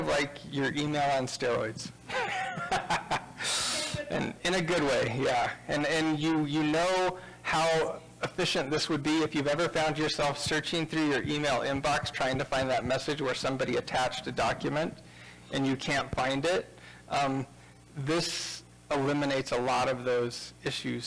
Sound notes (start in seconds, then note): 2.0 laughing